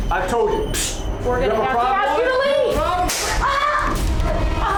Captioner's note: overlapping yelling; gunshot; screaming